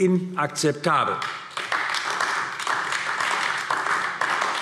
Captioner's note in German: Beifall AfD